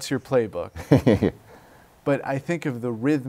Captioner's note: laughter